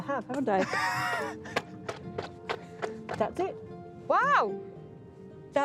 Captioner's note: laughs